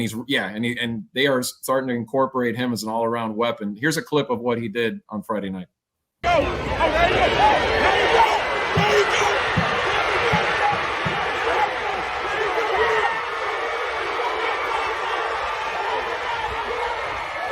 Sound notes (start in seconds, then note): 6.0 applause